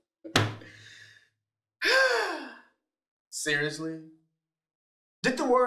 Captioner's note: sighs